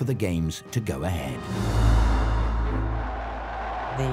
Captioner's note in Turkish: Kalabalık tezahürat ediyor